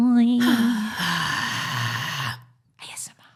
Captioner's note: vocalising; exhaling loudly